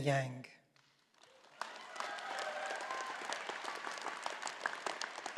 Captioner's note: all applauding